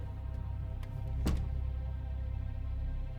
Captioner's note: door slams shut